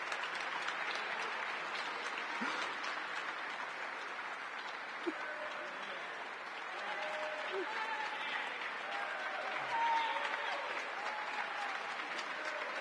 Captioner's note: applause